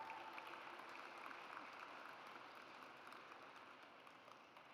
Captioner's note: audience applauds